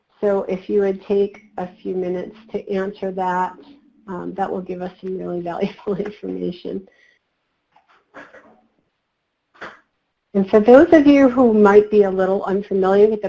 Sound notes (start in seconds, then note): 8.1 laughs